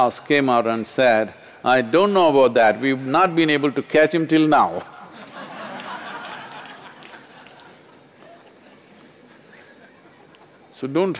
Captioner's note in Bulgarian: Смях/Аплодисменти